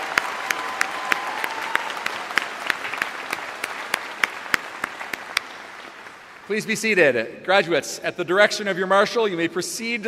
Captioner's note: applause